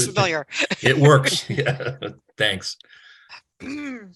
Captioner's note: chuckling